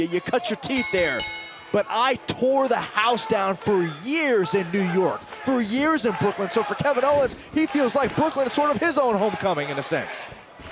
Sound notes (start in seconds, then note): 2.7 bell ringing